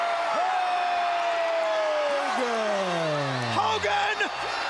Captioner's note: crowd cheering